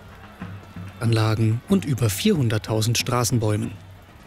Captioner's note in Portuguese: narração em alemão